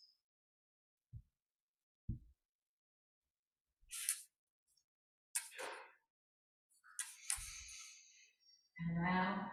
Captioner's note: silence